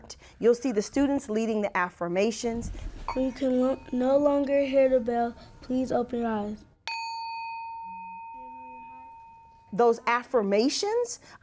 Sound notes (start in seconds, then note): 6.8 bell